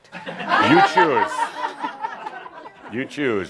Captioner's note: some chuckles